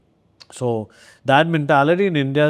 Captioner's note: lips smack